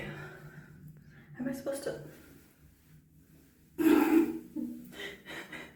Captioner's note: laughter